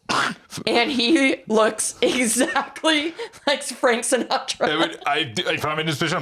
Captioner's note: laughing